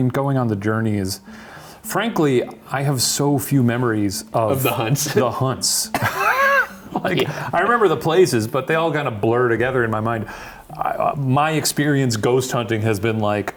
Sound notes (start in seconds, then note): 5.9 chuckling; 5.9 chuckles